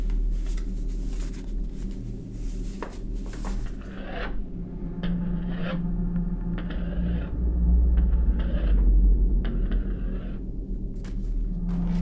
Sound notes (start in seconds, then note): 3.9 scratching on door